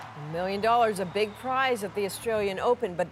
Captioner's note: cheers and Applause